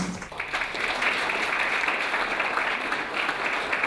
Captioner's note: clapping